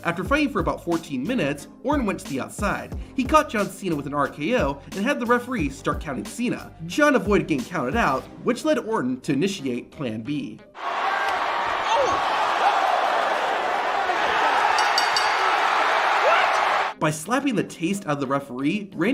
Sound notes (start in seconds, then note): 10.8 audience hollering; 14.7 bell rings